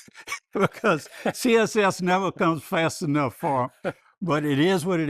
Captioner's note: laughs